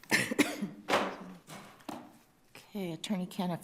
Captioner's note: person coughs